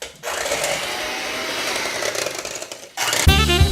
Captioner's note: hand blender starts